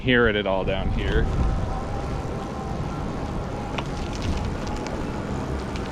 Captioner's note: bike motor roaring soflty